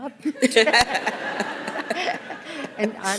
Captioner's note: laughter